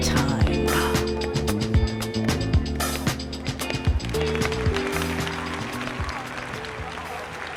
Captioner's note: sounds of walking outdoors, music gets louder, song finishes to applause